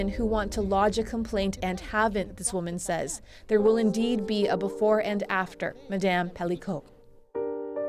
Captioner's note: speaking French